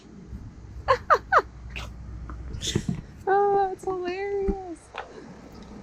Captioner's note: laughs